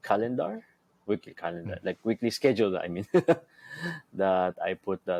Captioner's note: laughs